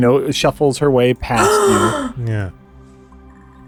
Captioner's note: gasp